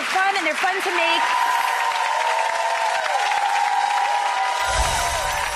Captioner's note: applause and cheering